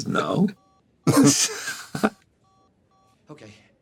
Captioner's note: Begley Jr., Gould chuckle